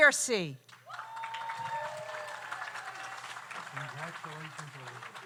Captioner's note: audience applauds; audience cheers